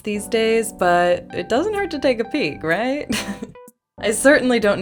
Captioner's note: laugh